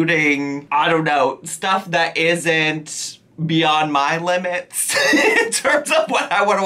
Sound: laughing

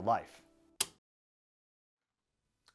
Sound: click, Circuit Breaker

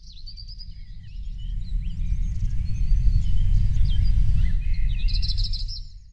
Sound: birds tweeting

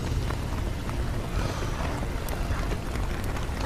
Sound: exhales deeply

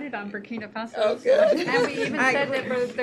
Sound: laughter

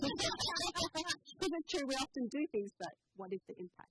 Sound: laughter

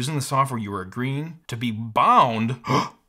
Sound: gasp

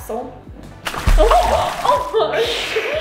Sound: water splash

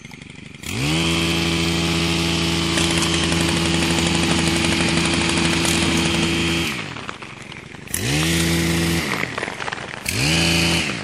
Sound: machinery roars

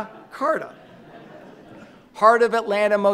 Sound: audience laughing

